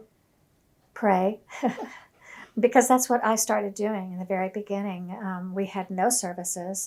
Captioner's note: laughs